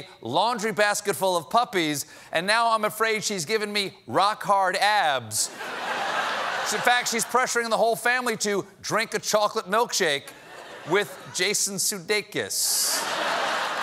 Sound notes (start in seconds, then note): 5.5 laughter